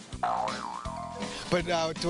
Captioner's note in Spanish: sonido ridículo de dibujos animados